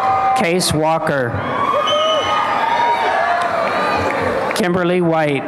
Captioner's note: applause and cheering